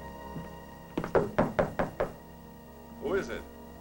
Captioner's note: knocking